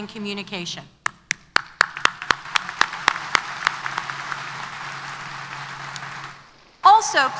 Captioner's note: applause